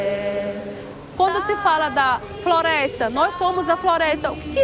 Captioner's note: non-english speech